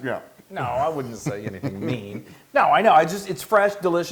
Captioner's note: laugh